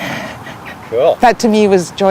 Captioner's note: laughs and nods